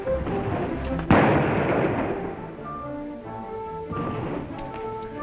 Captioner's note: gunshot firing